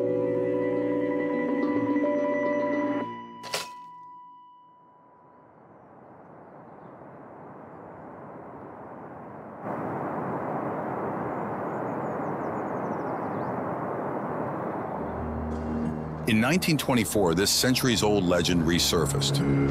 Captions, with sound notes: (slides clicking) (wind howling) (birds chirping) In 1924, this century's old legend resurfaced.